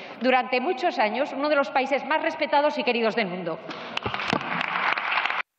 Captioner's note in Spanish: Aplausos